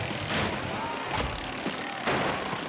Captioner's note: mowers buzzing; mower crashing; mower imploding